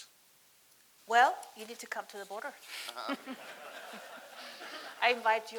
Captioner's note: laughs